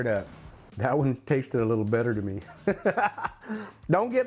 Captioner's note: laughs